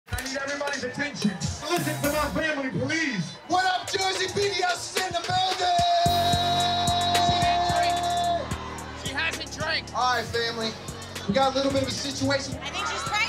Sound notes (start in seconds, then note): 6.6 cheering